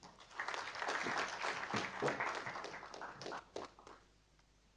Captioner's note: audience applauding